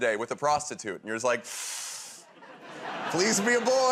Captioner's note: inhales sharply